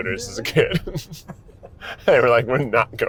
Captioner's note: laughs